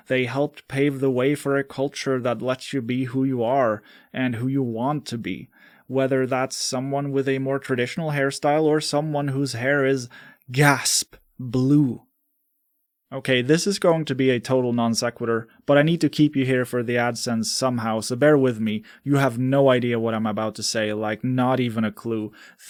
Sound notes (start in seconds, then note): 12.2 gasp